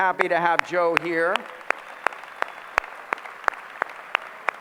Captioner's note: applause